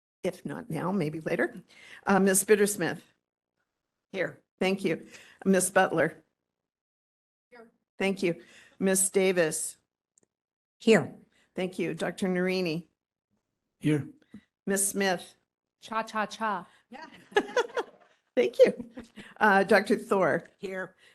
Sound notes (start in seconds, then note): 17.0 laughing